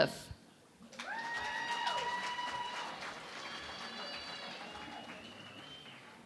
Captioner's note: cheering and Applause